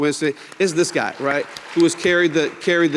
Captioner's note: people clapping